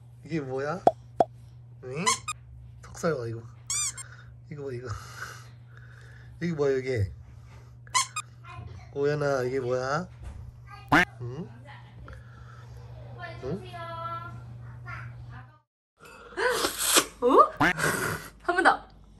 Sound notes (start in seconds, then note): 16.5 sucking